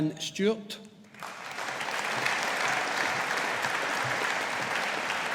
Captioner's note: audience applauding